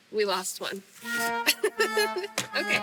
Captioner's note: sad sound effect